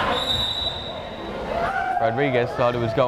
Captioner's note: whistle blares